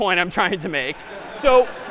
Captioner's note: laughter